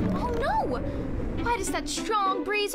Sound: wind blowing

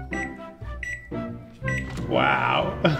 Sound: microwave dinging

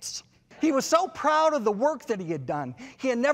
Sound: audience laughs

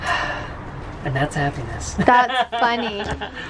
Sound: laughs

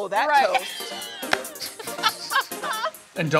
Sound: laughs

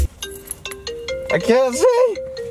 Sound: phone rings

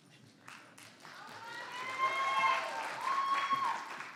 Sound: audience cheers

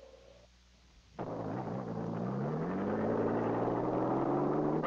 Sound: car engine running

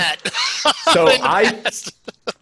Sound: laughs

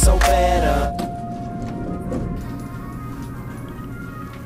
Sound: elevator bell ringing

